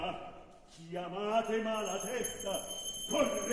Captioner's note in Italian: Suona il campanello